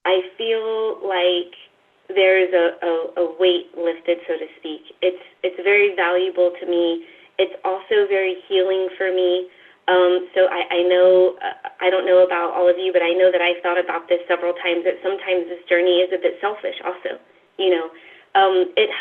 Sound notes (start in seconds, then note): none